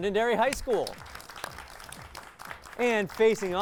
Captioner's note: applause